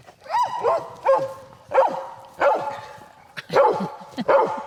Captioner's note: barking